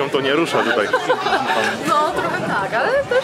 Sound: laughs

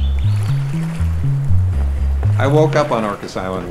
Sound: waves crashing

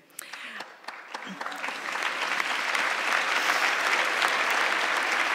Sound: audience clapping

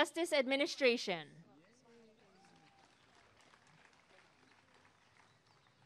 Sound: applause and cheering

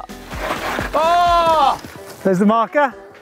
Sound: disappointed noises

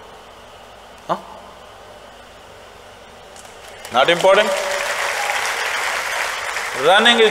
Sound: applause

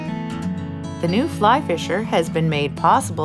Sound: voiceover

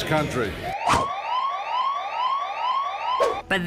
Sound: siren wails

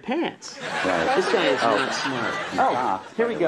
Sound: audience laughs

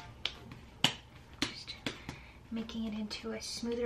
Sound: smacking

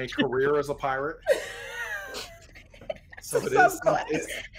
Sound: people laughing

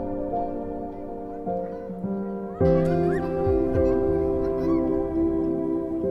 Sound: child Screaming

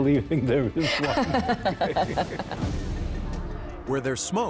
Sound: laughing

